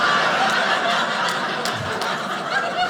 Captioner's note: audience laughing